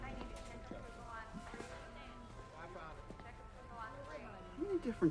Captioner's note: store worker announcing